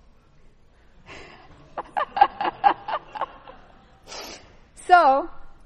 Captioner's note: laughter